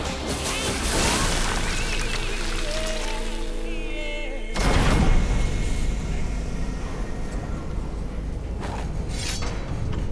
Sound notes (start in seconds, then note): 4.5 door bangs open